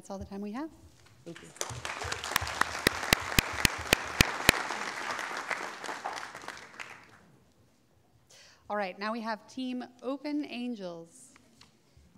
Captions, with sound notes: That's all the time we have. - Thank you. (audience clapping) - All right, now we have Team Open Angels.